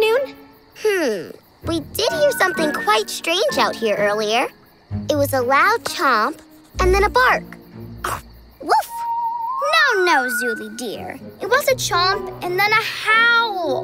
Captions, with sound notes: Hm, we did hear something quite strange out here earlier. It was a loud chomp and then a bark. [chomping and barking] No, no, Zooli dear. It was a chomp and then a howl.